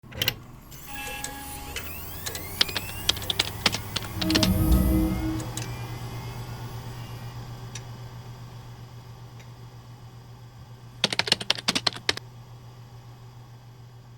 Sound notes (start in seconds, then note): 1.2 computer starting up; 2.6 keyboard clacking; 3.7 ethereal chime; 11.1 keyboard clacking